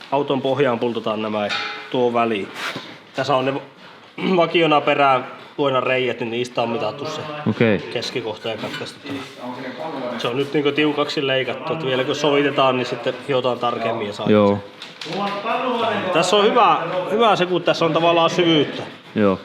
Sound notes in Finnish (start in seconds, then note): 4.2 rykäisee; 15.1 taustapuhetta